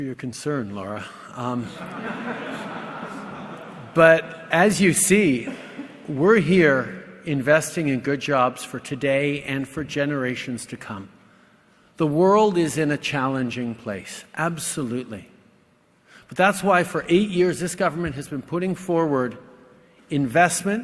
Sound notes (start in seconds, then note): 1.7 laughter